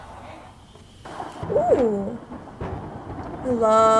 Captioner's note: lightning crashes